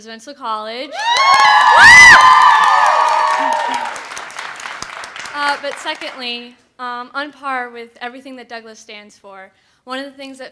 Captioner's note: crowd screams